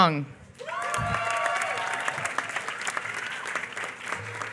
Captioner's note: applause